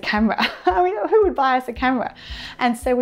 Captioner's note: laughter